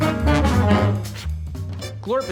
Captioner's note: blows